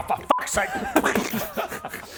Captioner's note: pop!